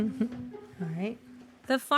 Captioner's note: laughs